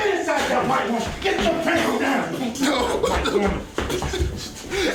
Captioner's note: sounds of struggling